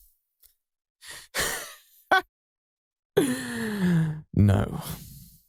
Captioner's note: laugh